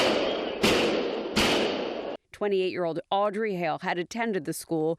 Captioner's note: shooting